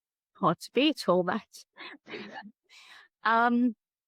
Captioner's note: laughs